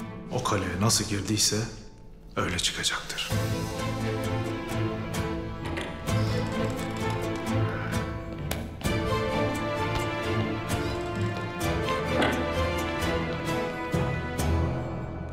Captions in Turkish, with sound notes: O kaleye nasıl girdiyse öyle çıkacaktır. (Kapı açılma sesi) (Kapı gıcırdama sesi) (Kapı gıcırdama sesi) (Kapı kapanma sesi)